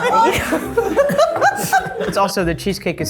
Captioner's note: group laughing